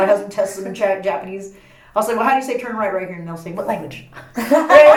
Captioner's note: laughs